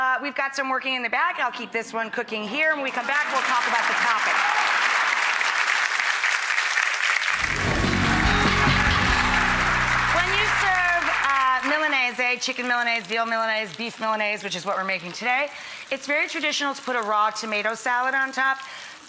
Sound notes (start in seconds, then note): 2.9 audience applauding; 7.4 upbeat music